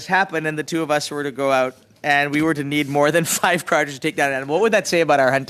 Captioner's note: laughter